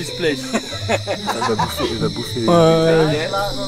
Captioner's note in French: rires